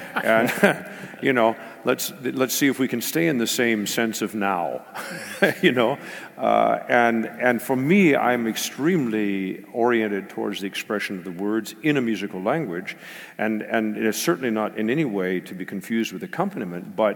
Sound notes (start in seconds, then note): 4.9 laugh